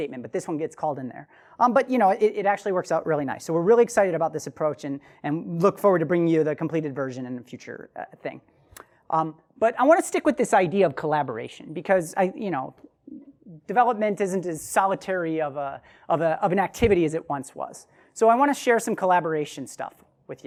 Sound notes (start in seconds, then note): none